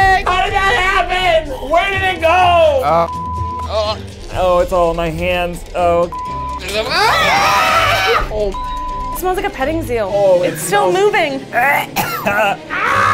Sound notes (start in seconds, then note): 3.0 beep; 3.9 gags; 6.0 beep; 6.8 both screaming; 8.4 beep; 11.6 man coughs; 12.6 man screams